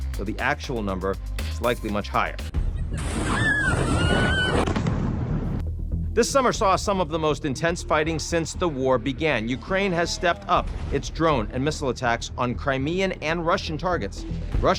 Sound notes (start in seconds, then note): 2.6 explosion booming; 3.0 people screaming